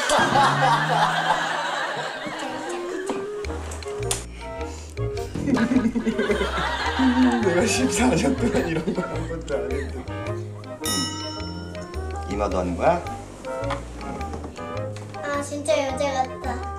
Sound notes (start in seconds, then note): 5.3 half laughing, half crying